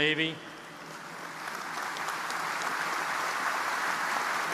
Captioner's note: audience applauding